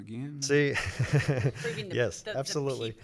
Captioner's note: laughs